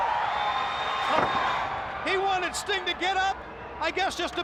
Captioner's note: crowd cheering